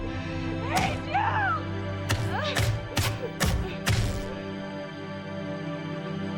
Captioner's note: crying